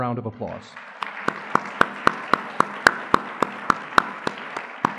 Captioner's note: audience clapping